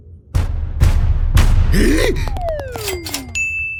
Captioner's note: gasp